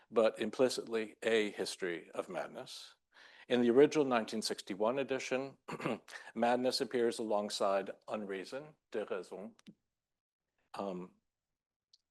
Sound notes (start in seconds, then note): 5.6 clears throat; 9.9 speaking French